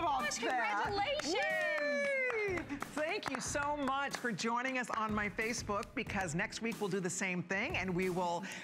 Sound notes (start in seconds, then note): 6.6 applause